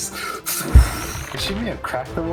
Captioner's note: fffpshhhh